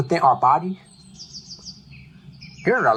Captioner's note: birds chirping